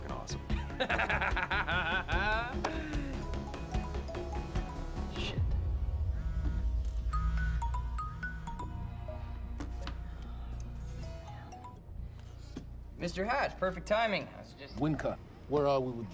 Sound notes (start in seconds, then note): 0.6 laughs; 3.4 cellphone rings; 5.3 cellphone vibrating; 7.1 ringing continues